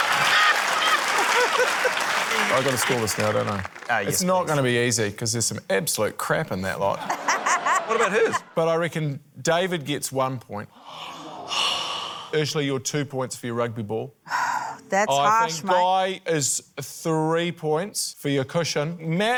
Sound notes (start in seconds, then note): 0.0 laughter, applause; 7.0 laughter; 10.8 sighs; 11.0 audience groans; 14.6 sighs